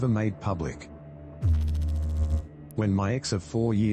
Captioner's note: electrical noise